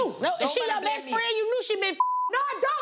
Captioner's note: beep